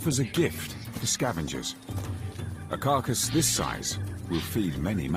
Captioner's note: hippos grunting